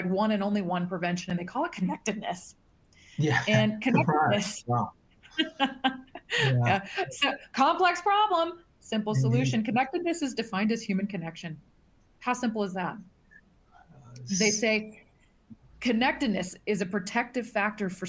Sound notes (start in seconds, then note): 5.3 laughs